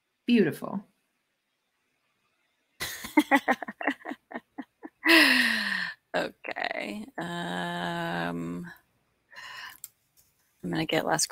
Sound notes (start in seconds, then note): 2.8 laughs